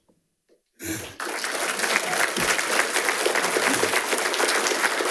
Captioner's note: attendees applauding